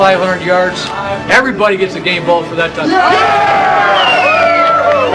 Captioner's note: cheers and applause